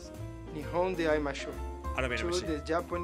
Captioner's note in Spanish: habla en japonés